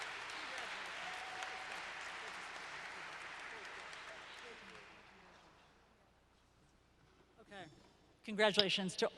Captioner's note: applause - Low Conversation